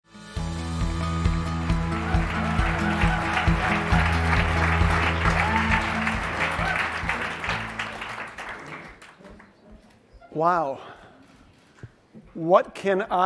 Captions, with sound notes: (upbeat instrumental music) (audience cheering and clapping) - Wow, what can I do where I am?